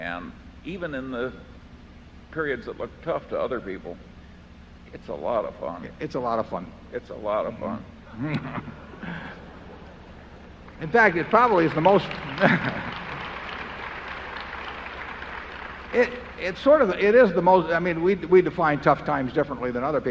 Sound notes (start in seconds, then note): 8.1 laughter; 13.4 applause